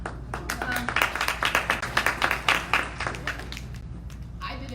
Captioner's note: audience applauding